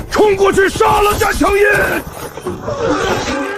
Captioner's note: sound of battle